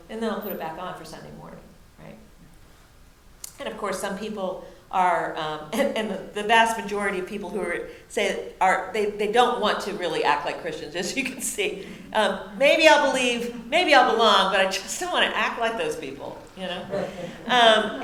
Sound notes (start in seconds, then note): 11.7 laughs